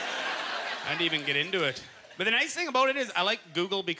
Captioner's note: audience laughter